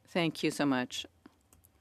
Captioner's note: speaking French